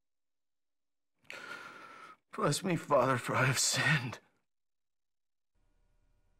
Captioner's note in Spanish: suspira